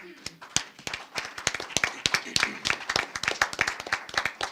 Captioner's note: audience applauding